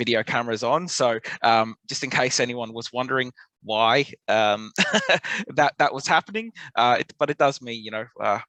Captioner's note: laughs